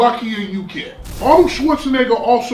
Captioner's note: crashing noise